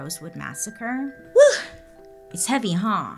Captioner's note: sighs